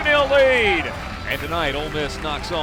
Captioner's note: voiceover